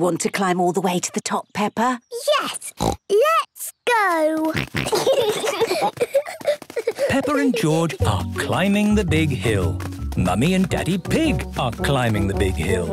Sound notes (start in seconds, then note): 2.6 snorts; 4.5 snorting, giggling